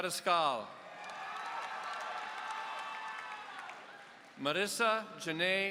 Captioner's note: audience cheering